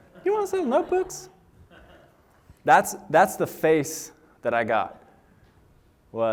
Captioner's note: laughter